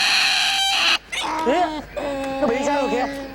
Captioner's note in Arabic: الصوت المنطوق باللغة الفيتنامية